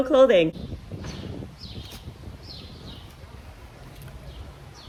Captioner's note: birds chirping